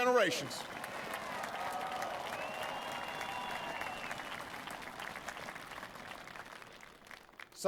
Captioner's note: applause